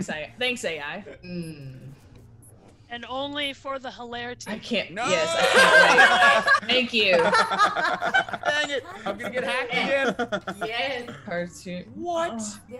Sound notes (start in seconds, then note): 0.5 laugh; 5.1 laugh; 11.6 laugh